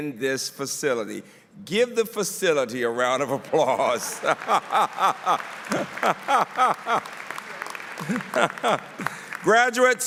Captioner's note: laughter; applause